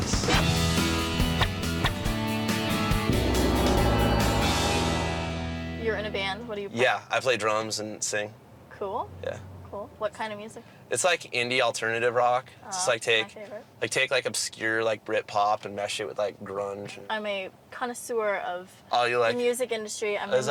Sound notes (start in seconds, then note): 0.0 rock music; 3.0 gong chimes